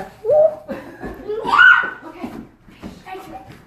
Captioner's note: yells